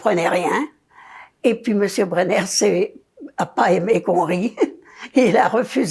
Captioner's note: laughing